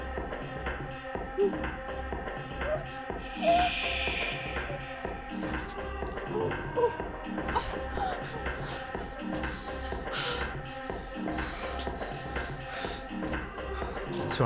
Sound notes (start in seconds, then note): 6.1 crying; 6.7 techno music